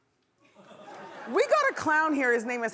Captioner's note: laughing